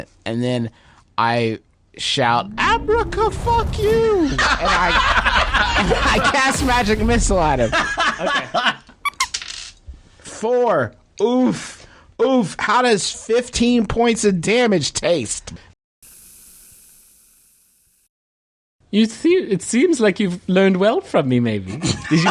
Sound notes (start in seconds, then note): 4.3 roaring laughter; 9.0 squeaky toy noise